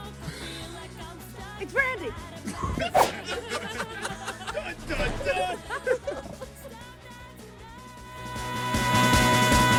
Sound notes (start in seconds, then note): 3.1 laughter